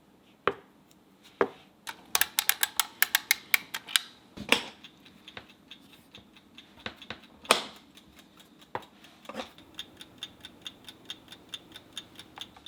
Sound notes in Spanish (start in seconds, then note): 1.9 botones sonando; 4.4 reloj haciendo tic tac